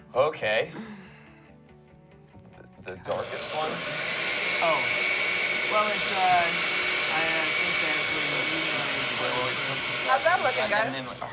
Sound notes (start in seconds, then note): 3.0 blending